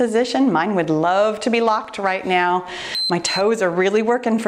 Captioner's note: timer beeps